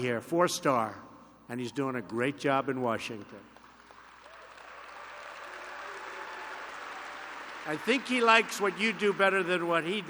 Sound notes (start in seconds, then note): 3.4 applause